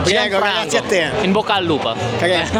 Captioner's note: Italian